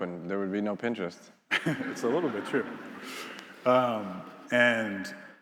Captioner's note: attendees laughing